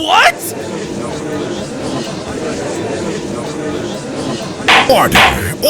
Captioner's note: gallery chattering